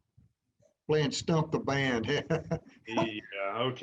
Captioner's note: laughter